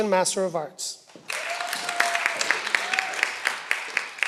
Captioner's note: cheering